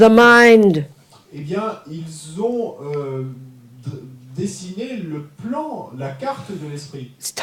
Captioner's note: audience member speaks in French